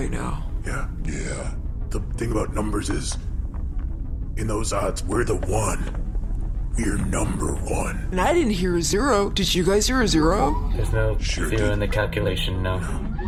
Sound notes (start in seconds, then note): none